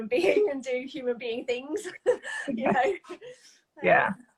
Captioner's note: laughs